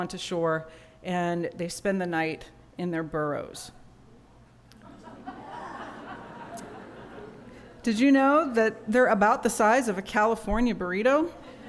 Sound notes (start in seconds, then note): 4.8 laughter; 11.3 laughter